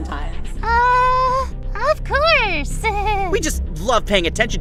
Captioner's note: nervous laugh